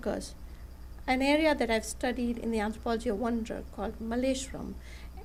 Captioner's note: non-english speech